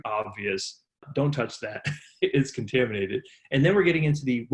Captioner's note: laughs